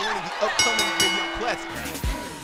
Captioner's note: bell ringing